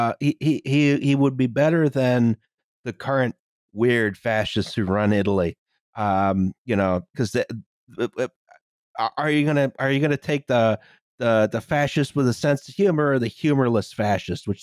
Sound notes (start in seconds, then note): none